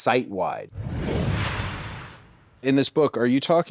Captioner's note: logo whooshes